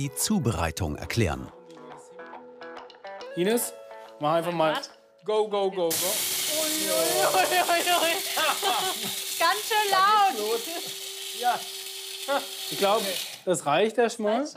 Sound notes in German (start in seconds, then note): 5.7 Zischen; 7.0 lacht